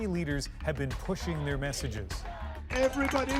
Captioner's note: cheers and Applause